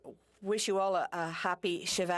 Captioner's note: speaking French